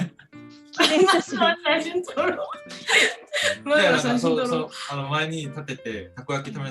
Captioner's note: laughter